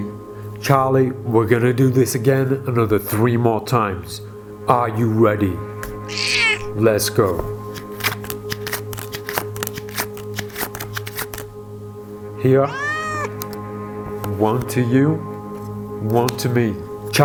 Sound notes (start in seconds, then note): 6.1 cat meows; 7.6 cards shuffling; 12.6 cat meows